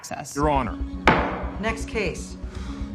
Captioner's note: gavel bangs